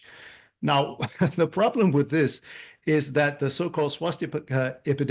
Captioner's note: laugh